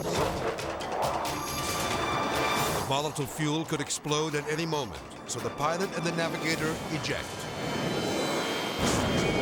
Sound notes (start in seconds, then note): 0.0 jet roaring; 1.0 edgy dramatic music; 7.3 seats whooshing; 9.1 ejection exploding